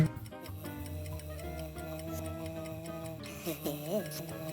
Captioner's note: clock ticking